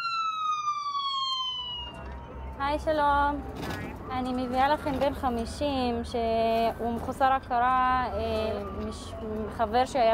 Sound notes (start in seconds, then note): 0.2 sirens wail; 3.0 speaks foreign language